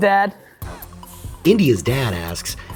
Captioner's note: voiceover